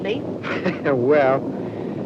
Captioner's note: laughs